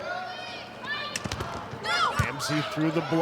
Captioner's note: players shouting indistinctly; ball thumping